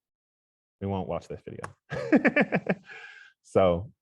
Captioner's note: laughs